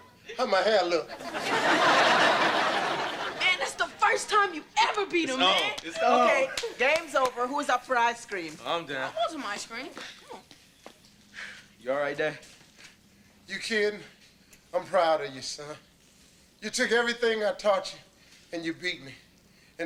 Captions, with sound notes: How my hair look? (audience laughter) - Man, this the first time you've ever beat him, man! - It's on, it's on! - Okay, game's over, whose up for ice cream? - I'm down. - I want some ice cream. - You all right dad? - You kiddin'? I'm proud of you son. You took everything I taught you, and you beat me.